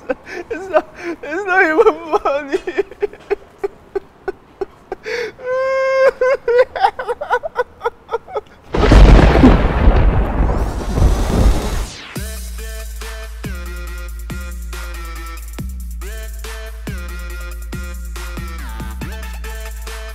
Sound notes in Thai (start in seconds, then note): 2.9 ร้องไห้; 8.7 ฟ้าฝ่า